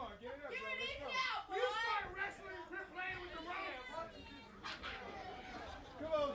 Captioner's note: crowd chatter